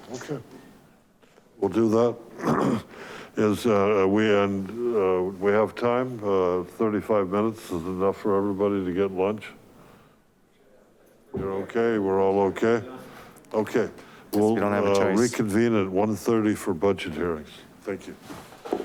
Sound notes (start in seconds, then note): 2.3 clears throat